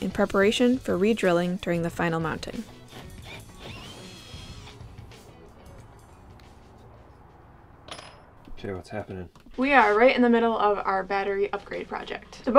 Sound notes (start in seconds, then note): 2.8 power tool drilling; 5.1 mellow jazz music